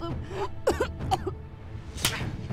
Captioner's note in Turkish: Öksürme sesi; Tokat sesi